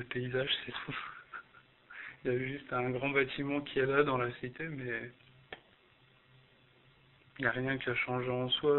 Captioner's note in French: rire